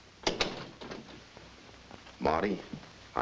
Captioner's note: door thuds shut